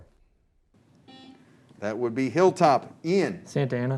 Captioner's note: buzzer